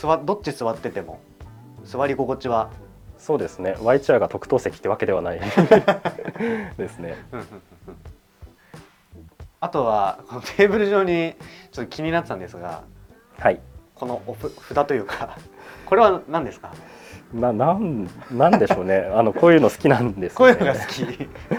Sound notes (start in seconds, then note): 5.4 laughs; 18.0 laughs